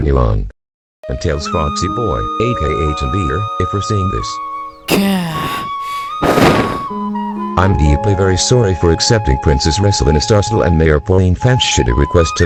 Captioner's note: sighs